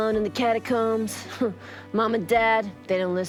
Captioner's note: humph